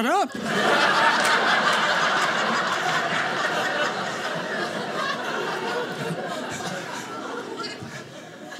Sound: audience laughing

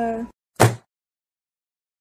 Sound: bam

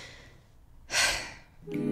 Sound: exhale

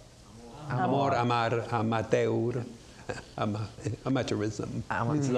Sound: audience murmurs; speaks in a foreign language

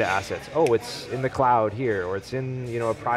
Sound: snaps

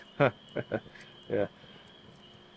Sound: laughs

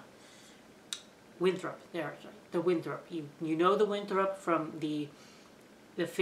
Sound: tongue clicking

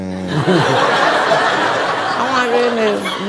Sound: audience laughs

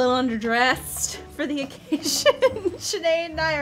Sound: laughs

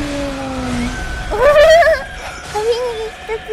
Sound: laugh

